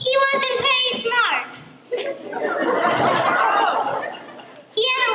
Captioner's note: laughter